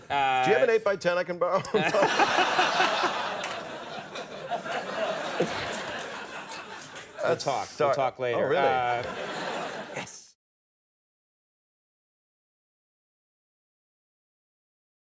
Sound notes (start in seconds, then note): 1.5 all laugh; 9.5 audience laughs